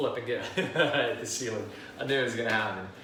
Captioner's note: laughs